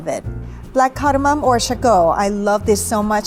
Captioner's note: speaking foreign language